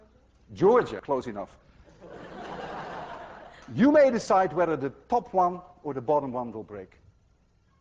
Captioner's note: laughter